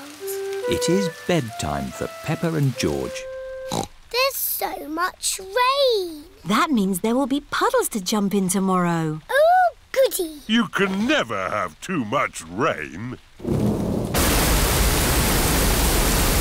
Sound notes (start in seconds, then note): 3.7 snorts; 13.4 thunder rumbling